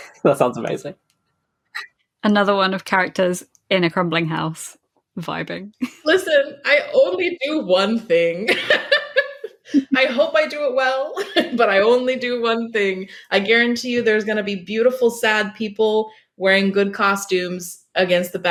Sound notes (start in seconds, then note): 8.5 laughs